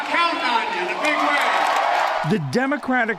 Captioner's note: cheering and applause